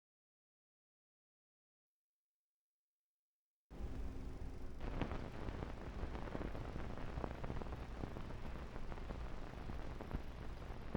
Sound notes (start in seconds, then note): 3.7 static; 3.8 film reel whirring